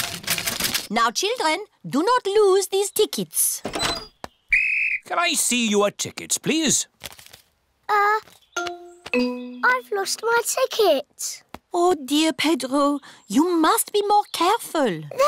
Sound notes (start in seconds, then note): 4.5 blows whistle